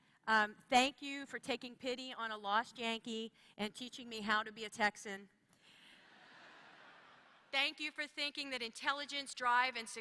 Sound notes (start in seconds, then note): 6.0 laughter